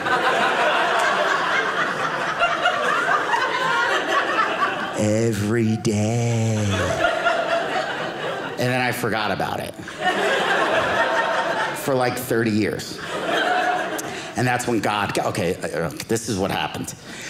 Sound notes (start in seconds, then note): 0.0 audience laughing